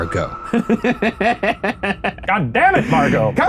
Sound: laughing

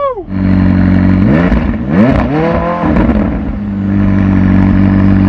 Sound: engine revving

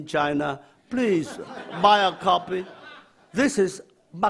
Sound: audience laughs

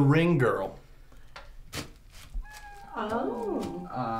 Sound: squealing

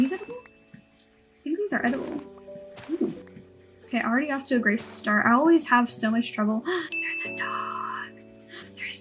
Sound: gasp

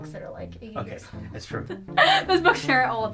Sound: laughs

